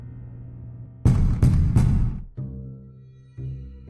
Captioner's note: door pounding